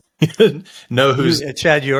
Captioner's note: laughs